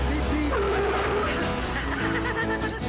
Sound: tires squeal; chuckling

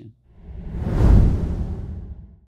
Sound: dramatic whoosh

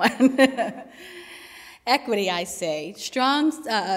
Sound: laughs

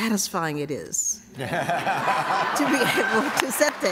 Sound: laughter and applause

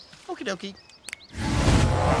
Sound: snaps fingers

